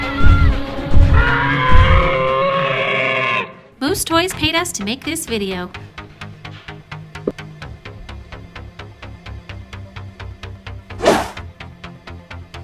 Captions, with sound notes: [Dinosaur roars] Moose Toys paid us to make this video.